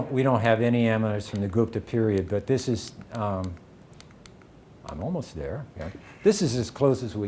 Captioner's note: clicking through slides